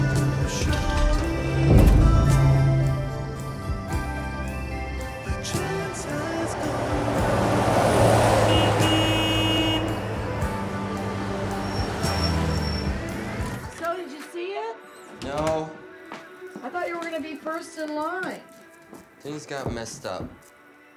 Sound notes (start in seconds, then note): 7.2 car horn